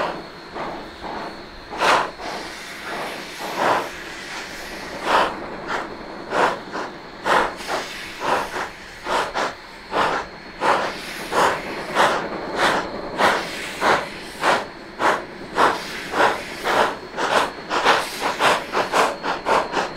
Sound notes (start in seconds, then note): 2.5 slow chugging